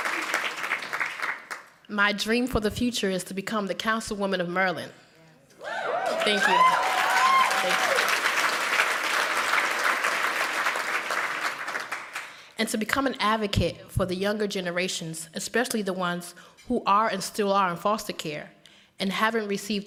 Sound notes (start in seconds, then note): 5.6 cheers and applause